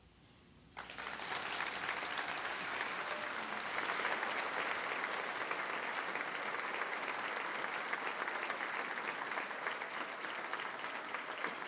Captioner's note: applause